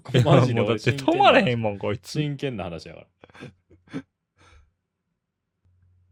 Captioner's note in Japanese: 笑い